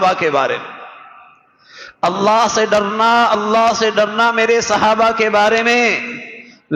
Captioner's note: gasp